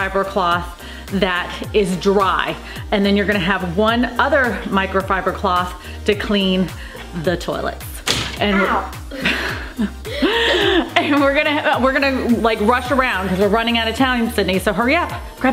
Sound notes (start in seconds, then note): 8.4 laughing